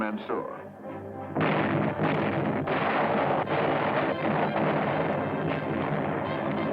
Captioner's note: explosions